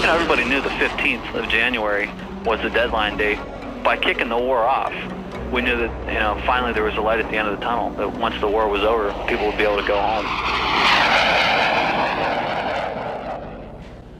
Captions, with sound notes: - Everybody knew the 15th of January was the deadline date. By kicking the war off, we knew that finally there was a light at the end of the tunnel. Well, once the war was over, people would be able to go home. [plane passing]